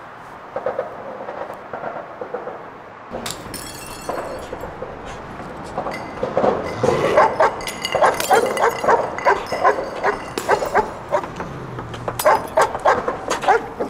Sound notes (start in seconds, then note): 3.1 glass breaking; 7.0 dog barking